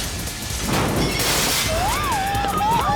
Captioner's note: cable grinding; crash